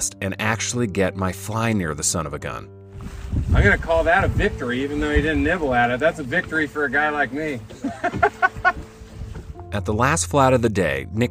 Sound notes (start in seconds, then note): 7.7 laughs